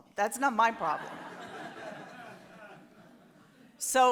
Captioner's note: audience laughs